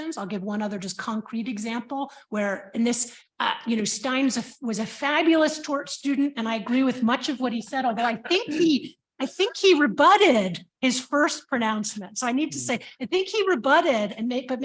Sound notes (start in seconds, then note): 8.0 chuckles